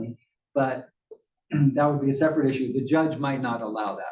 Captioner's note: cough